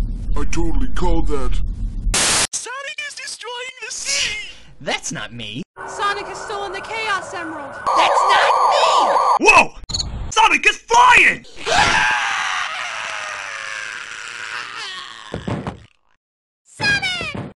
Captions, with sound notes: I totally called that. Sonic is destroying the city! That's not me. Sonic has stolen the Chaos Emerald! That's not me! Woah! Sonic is flying! *screams* Sonic!